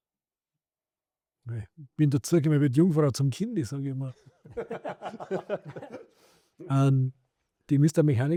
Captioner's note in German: gelächter